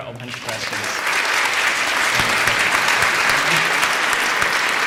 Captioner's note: applause